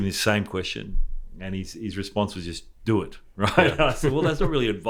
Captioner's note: laughs